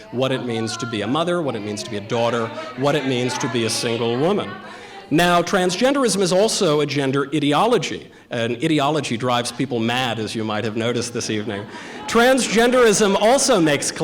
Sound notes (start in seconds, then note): 4.1 protestors chattering; 10.6 audience laughter